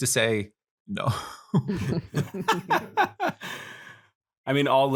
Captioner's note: laughter